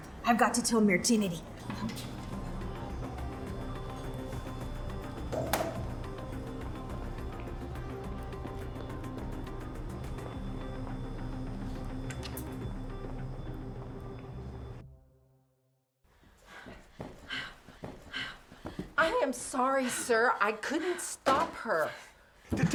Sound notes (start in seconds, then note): 2.4 soft dramatic music; 14.1 soft dramatic music continues; 16.2 Carlotta panting; 16.2 footsteps tapping